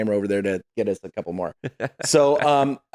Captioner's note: laughing